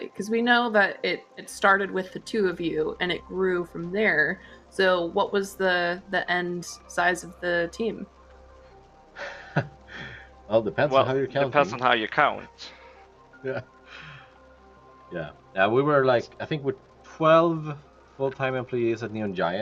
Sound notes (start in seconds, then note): 10.6 laughs